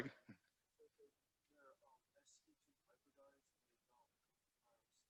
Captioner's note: student speaking faintly